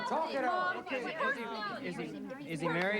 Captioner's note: all chattering